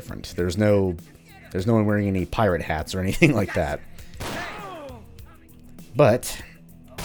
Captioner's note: chuckles